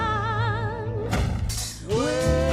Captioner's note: thud